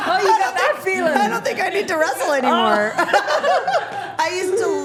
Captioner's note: laughing